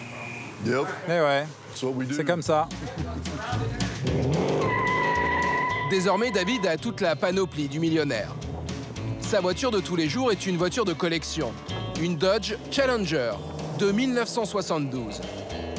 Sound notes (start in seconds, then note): 3.9 tires squeal